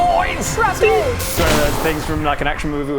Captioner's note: boom!